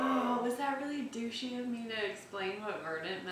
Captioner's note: laughing